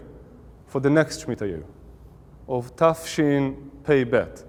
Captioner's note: Hebrew